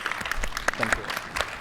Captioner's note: audience applauds